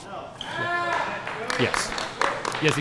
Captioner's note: applause